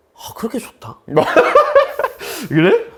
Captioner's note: laugh